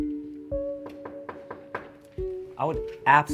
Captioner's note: knock on door